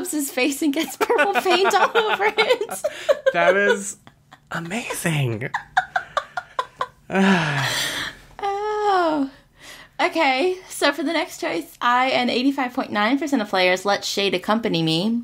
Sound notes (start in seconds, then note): 0.0 laughs; 5.4 laughs